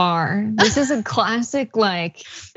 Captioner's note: laugh